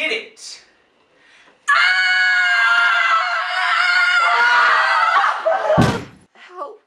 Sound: morgan's battle cry; scottie screams in terror; thud!

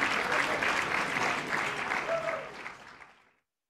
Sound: applause

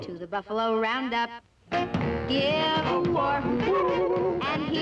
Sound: hoot

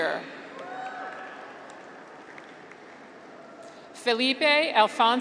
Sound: graduates cheer

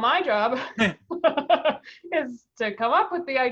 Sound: laugh

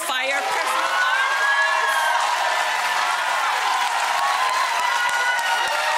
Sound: audience cheering and applauding

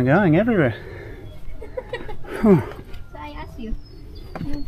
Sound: laughing

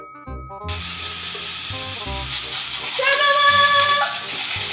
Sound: soft music; robots whirring

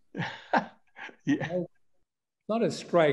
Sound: chuckles

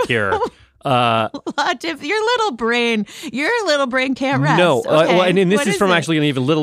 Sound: laughs

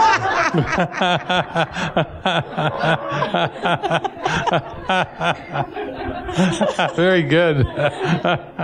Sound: laughter

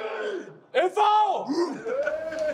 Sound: battle cry

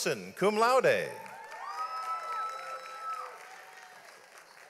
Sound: audience applauds

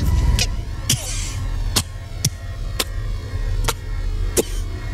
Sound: coughs

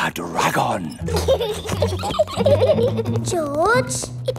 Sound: both giggling

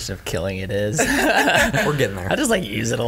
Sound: laughter

